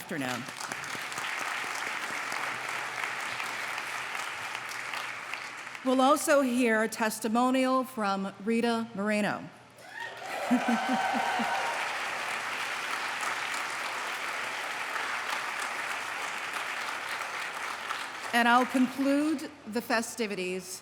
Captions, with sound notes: [applause] We'll also hear a testimonial from Rita Moreno. [applause] And I'll conclude the festivities